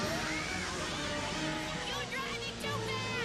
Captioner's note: all scream